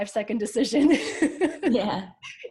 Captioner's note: laughs